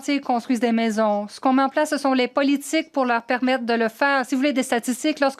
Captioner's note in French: voix de l'interprète